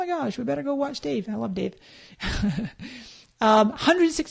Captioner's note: laughs